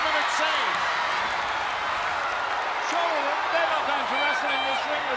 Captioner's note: applause